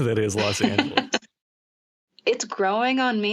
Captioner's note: laughter